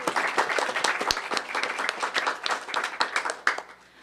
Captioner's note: applause